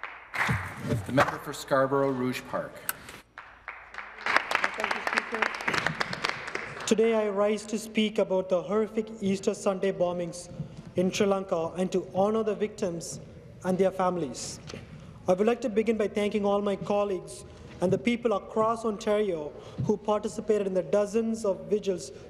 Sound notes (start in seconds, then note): 3.3 applause